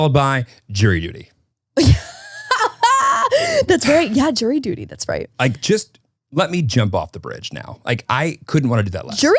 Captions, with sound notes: - Followed by jury duty. - (laughing) That's right, yeah. Jury duty, that's right. - Just let me jump off the bridge now. I couldn't wanna do that less.